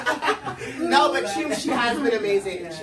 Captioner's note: everyone laughs